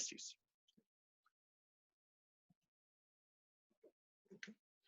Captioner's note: silence